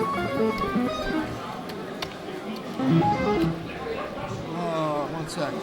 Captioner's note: keys clacking